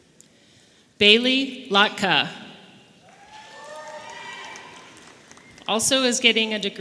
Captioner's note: audience cheering